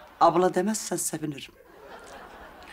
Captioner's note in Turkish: Gülme efekti